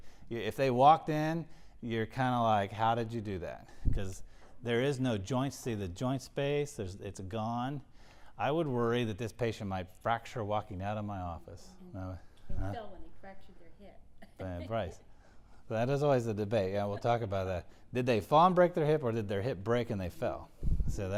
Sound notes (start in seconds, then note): 13.7 laugh